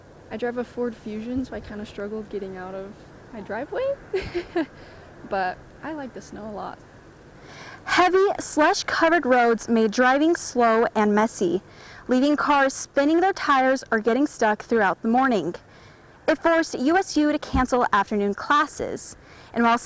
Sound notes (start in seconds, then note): 4.1 laughs